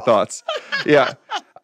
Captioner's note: laugh